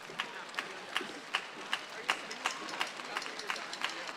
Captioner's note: audience applauds